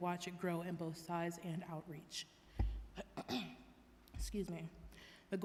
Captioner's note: clearing throat loudly